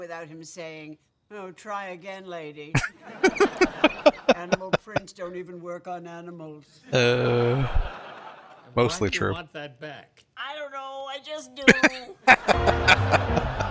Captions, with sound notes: [Laughing] Oh. Mostly true. [Laughing]